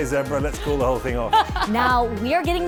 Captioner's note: laughing